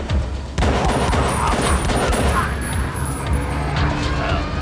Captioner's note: pistol firing